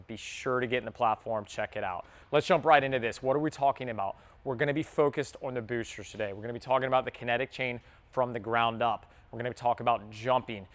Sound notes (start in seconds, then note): none